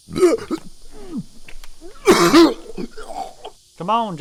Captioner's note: Johnny retching